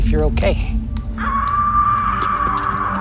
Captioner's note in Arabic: صراخ امرأة